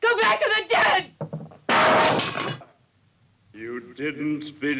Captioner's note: mirror shatters